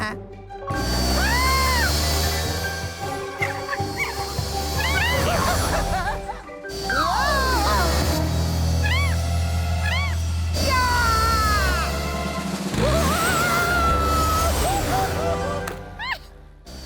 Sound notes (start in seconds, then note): 2.0 squeals; 4.2 chittering; 9.8 chittering